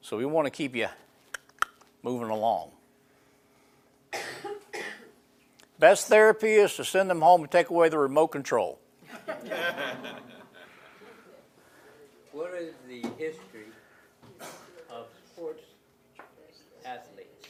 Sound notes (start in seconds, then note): 9.1 laughing